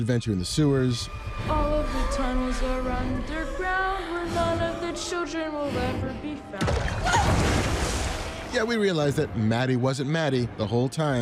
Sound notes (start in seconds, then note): 6.6 water burbles; 7.0 lilly yells